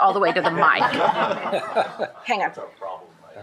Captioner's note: shared laughing